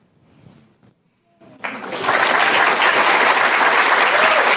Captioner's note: applause